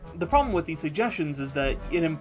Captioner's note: none